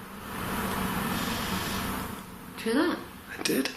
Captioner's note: quiet rattle